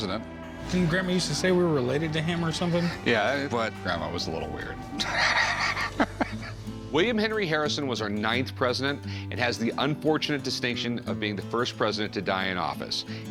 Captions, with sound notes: Didn't Grandma used to say we were related to him? Yeah, but Grandma was a little weird. [laughs] William Henry Harrison was our ninth president and has the unfortunate distinction of being the first president to die in office.